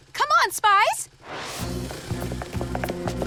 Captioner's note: tires screech